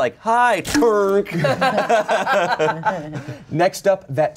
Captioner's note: everyone laughs